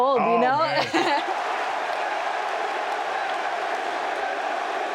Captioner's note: crowd cheering